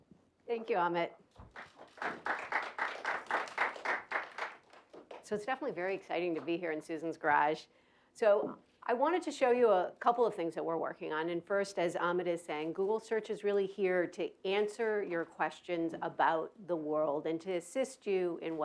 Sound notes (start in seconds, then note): 1.4 applause